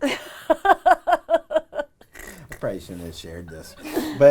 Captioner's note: woman laughing